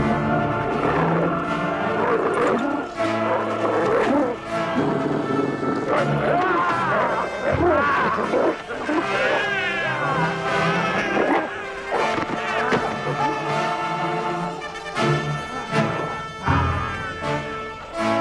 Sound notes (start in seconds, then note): 0.1 intense operatic music; 2.3 Beast growling; 6.6 Nepakin shouts; 9.0 baby crying